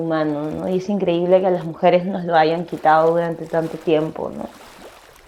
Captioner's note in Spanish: sonidos de agua, hormigas y voz off femenina #6